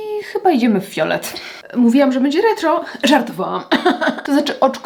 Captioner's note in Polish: śmiech